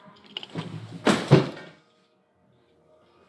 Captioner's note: crashing noise